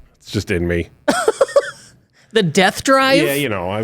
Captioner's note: chuckles